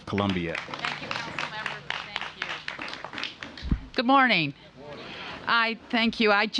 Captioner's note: applause